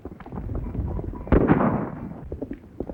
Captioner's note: gunshot